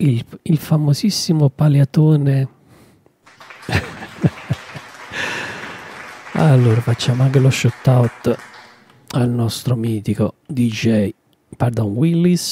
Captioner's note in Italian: Applauso